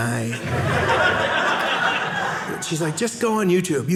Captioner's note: audience laughing